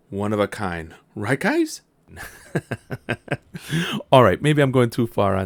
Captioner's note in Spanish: La risa